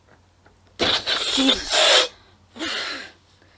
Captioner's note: balloon deflates